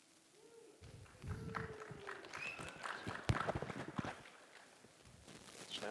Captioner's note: applause